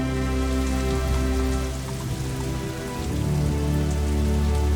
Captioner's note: rainfall pattering